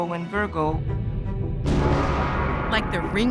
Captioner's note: bell ringing